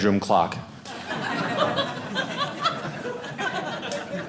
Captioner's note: audience laughing